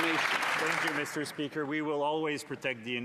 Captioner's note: some Applause